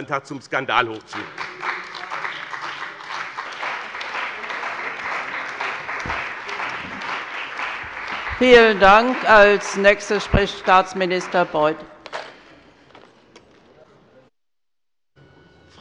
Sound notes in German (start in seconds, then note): 1.0 Beifall bei dem BÜNDNIS 90/DIE GRÜNEN und der CDU